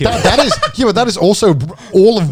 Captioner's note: chuckles